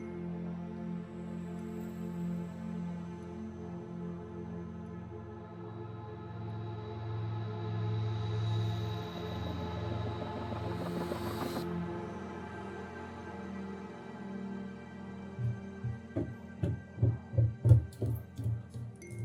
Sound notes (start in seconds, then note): 16.6 footsteps thud